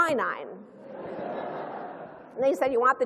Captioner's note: laughter